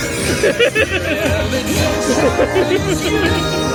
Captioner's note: laughing